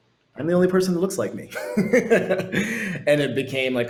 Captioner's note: laughs